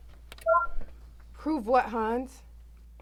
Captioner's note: soundboard beeps